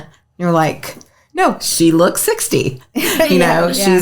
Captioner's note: laughs